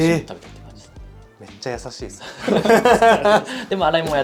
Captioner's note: laughs